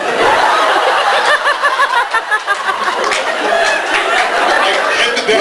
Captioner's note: laughs